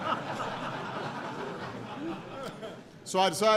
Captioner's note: laughter